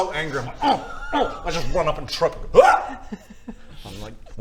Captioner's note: ugh; hyargh!